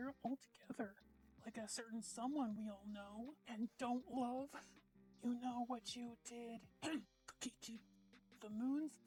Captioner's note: cough